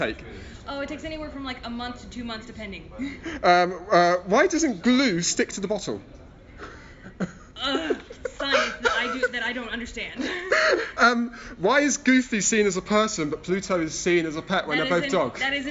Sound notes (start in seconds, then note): 7.0 laughs; 10.8 laughs